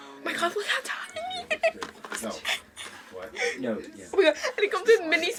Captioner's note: laughs